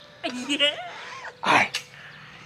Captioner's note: laughs